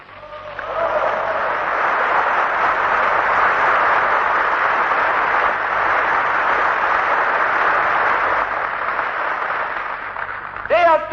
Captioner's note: applause